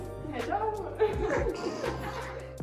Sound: laughter

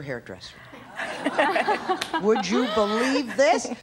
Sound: people laugh

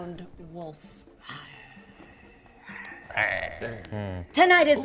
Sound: growls

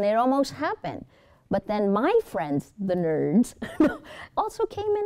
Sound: laughs

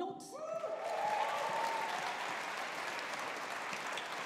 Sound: audience applauding

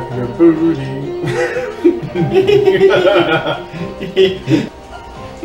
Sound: chuckle

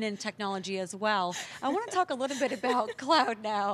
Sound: laughs

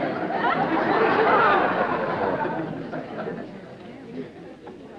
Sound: laughter

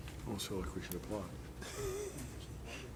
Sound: laughs

